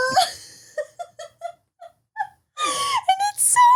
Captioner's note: laughing